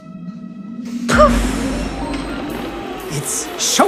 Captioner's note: slot machine ringing; jazzy music